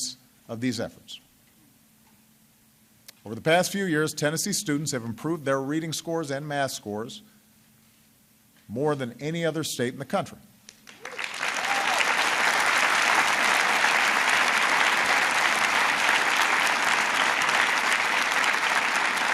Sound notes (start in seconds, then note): 14.0 applause